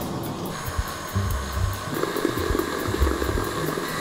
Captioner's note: whirring